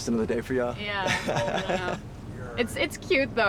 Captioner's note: Miguel laughs